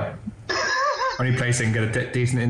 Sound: laughs

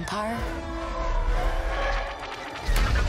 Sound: star wars swooping sound

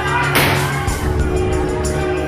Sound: gunshot

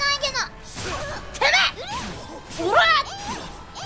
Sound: grunts

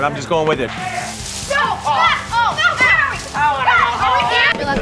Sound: yelling

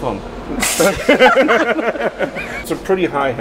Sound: laughing

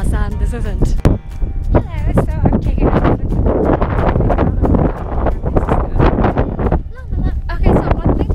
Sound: wind noises

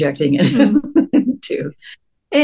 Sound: laughter

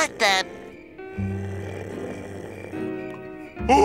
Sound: snoring

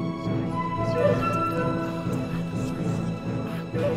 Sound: celtic whispered voices

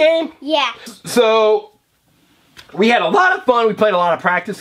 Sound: voiceover

